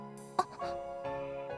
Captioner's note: gasp